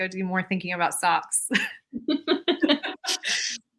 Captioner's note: laughs